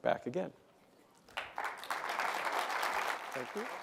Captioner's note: applause